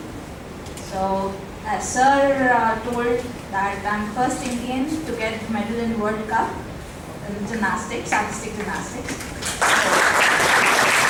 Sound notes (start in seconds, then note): 9.4 applause